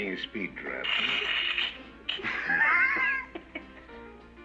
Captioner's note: laughs